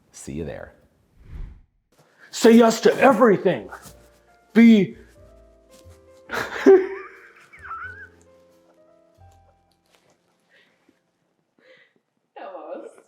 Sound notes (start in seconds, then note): 6.3 laughing